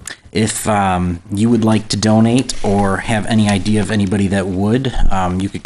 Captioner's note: none